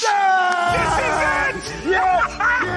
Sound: laughs

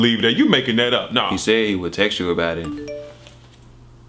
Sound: phone pings

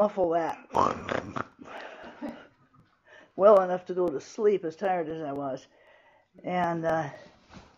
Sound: snoring

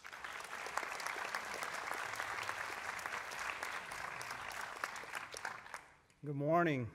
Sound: applause

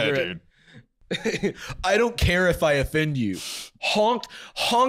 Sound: laughs

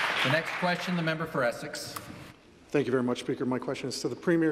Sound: applause

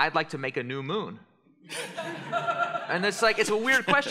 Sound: laughter

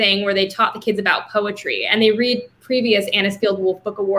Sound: none

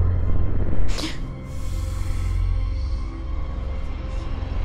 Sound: tense suspenseful music swells; woman gasps

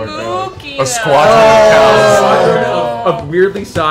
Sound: booing

